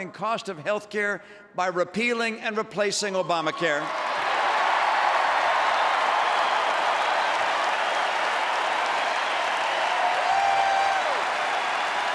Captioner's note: applause